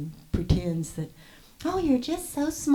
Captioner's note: smarmy voice